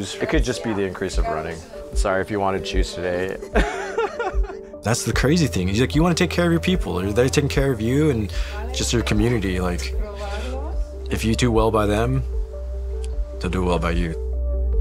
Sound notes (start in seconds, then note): 3.4 laughs